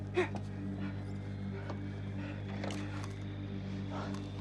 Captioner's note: radio whirring